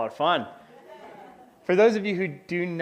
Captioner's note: audience laughs